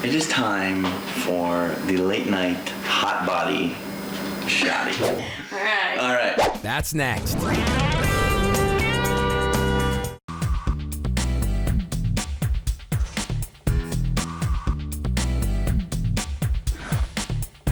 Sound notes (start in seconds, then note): 5.2 laughing; 8.6 upbeat music